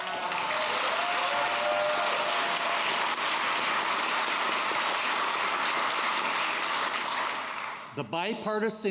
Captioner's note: applause